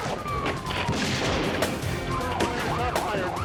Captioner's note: guns fire